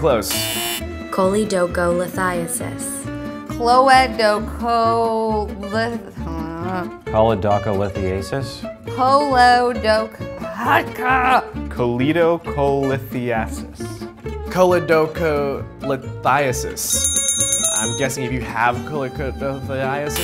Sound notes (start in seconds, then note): 0.2 buzzer sounds; 16.8 bell rings